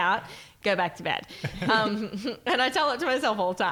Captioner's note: laughing